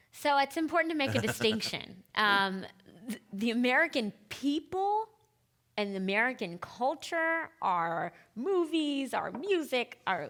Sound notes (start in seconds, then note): 1.0 laughing